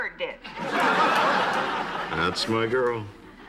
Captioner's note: laughter